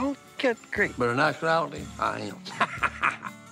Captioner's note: laughs